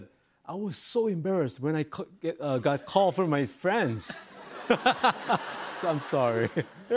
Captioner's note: laughs